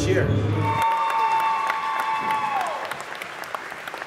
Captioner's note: crowd cheering